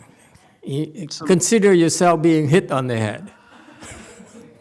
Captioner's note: laughs